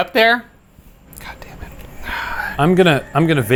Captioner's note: sighing